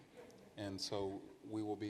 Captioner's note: participants laugh